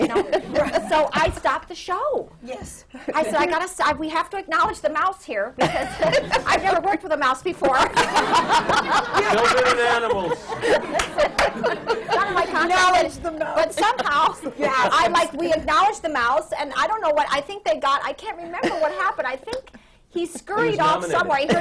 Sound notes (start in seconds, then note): 5.6 laughter